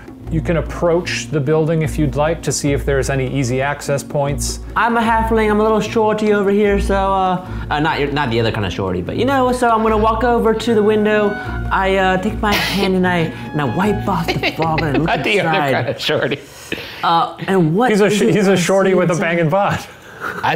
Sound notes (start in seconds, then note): 14.1 laughs